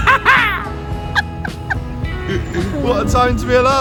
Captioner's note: both laugh